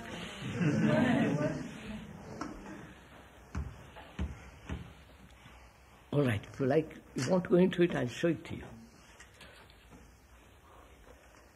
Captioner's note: laughter